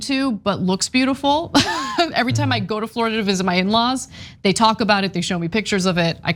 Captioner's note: laugh